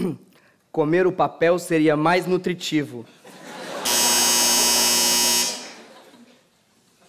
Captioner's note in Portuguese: campainha